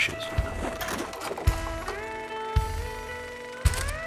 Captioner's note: film reel clacking